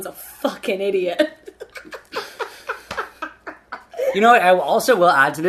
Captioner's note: laughing